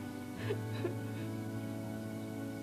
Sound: Rosa sobbing

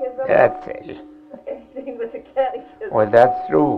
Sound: laughing

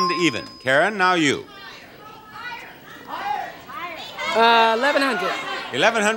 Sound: audience yelling

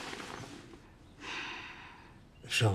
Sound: sighs

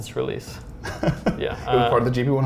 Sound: laughs

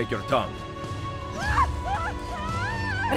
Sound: Lucrezia screams

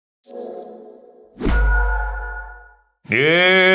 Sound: electronic beep

